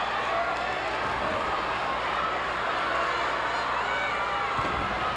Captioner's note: audience cheering